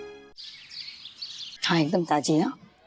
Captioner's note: birds chirping